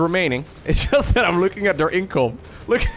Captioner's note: laughs